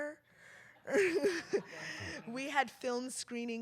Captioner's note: laughter